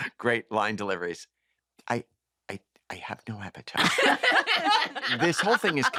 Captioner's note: laughter